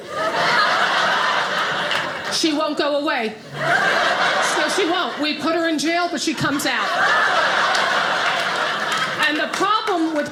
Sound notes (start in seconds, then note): 0.0 audience laughing